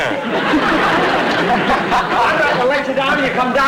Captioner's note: audience Laughing